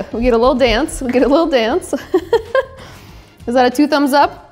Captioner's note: laughs